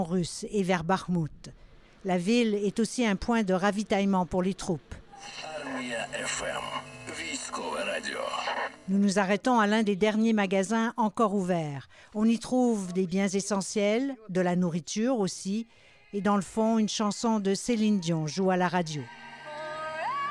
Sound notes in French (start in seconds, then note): 7.2 radio ukrainienne